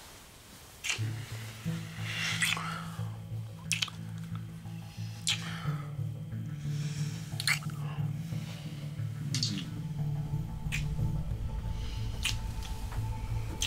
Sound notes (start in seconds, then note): 2.1 heavy breathing; 10.5 tense music